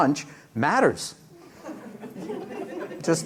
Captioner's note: laughter